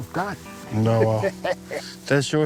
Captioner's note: laughing